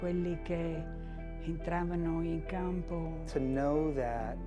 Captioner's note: speaking in foreign language